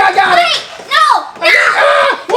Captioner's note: screaming